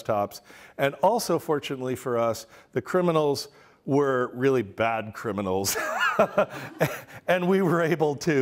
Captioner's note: laughter